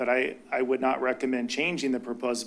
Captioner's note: none